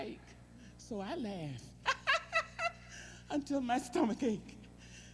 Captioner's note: laughing